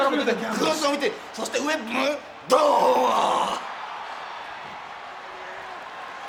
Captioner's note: overlapping chatter; person speaking in foreign language